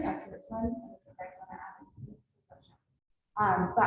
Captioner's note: mic goes quiet